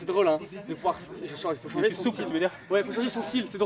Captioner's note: indistinct chatter